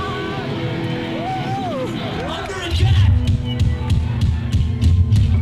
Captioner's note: crowd screaming